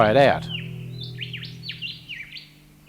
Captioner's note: bird sounds